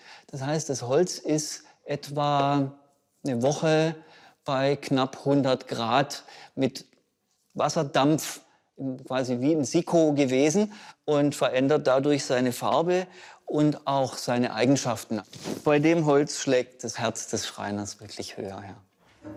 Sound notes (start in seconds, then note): none